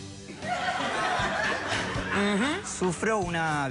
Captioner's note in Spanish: risas